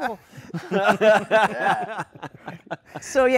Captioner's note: laughter